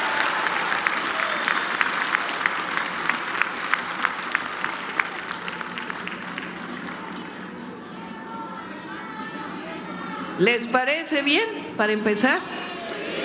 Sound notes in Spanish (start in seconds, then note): 8.0 aplausos